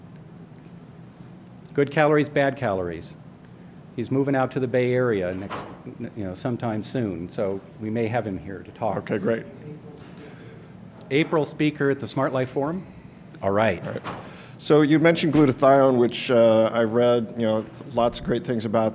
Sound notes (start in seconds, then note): 10.1 voice in audience